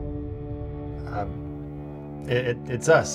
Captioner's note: Steve stammers